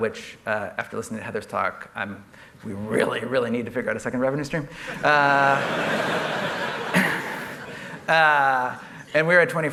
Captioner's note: laughter